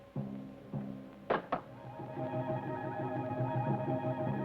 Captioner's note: rock clacks